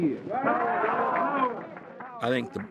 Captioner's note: audience yelling